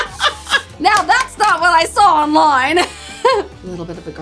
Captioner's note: laughs; laughs